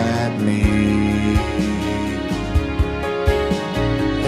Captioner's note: none